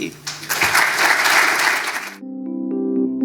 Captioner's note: audience applauds